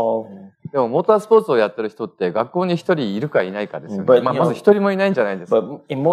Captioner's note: speaking japanese